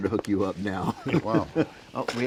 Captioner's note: laughs